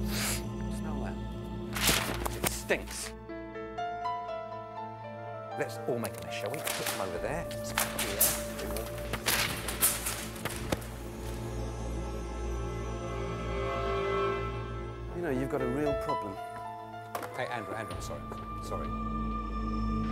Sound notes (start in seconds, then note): 0.0 sniffs; 1.7 script rustling; 8.8 papers rustling; 9.9 soft orchestral music